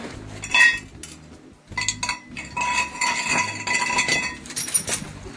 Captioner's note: metal clinking